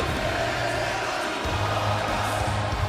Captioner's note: crowd cheering